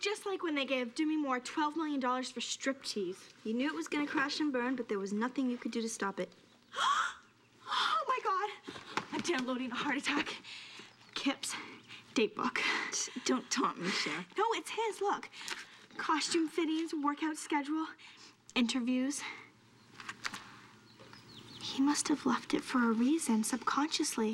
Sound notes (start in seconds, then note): 6.7 gasps